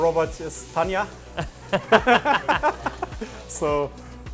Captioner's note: all laughing